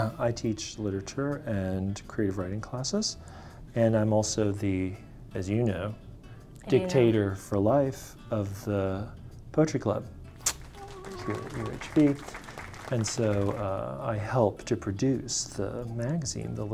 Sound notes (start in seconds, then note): 10.4 audience applauding; 10.6 humming